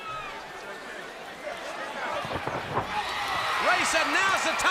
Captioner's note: crowd cheering